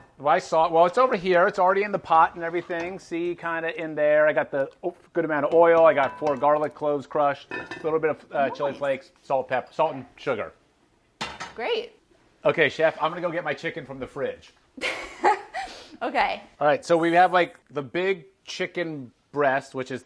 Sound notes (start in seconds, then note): 14.8 laughter